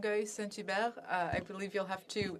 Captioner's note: speaking French